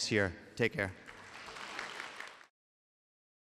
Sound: applause

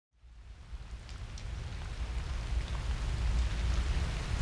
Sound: rain pattering

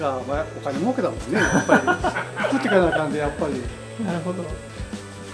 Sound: laughs

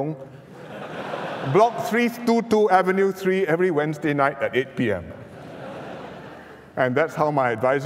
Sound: laughter

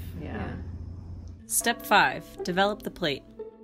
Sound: gong chimes

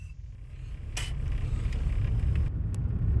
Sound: spits

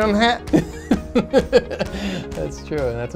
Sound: chuckles

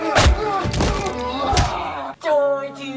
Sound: Shao Grunts

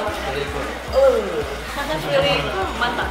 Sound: hums happily; laughs

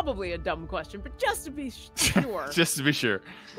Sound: laughs

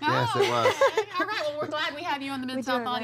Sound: laughter

